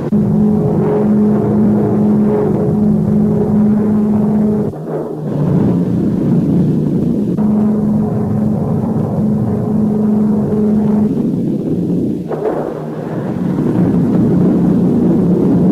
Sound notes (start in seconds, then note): 0.2 plane engine revving; 5.1 explosion booming; 7.3 plane engine revving; 12.1 explosions booming